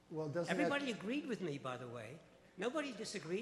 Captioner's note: voiceover